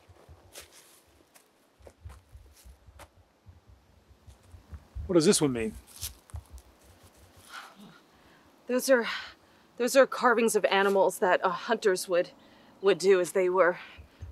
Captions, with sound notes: [forest din] What does this one mean? Those are-- Those are carvings of animals that our hunters would, would do as they were resting